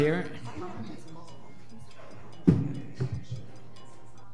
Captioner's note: chattering faintly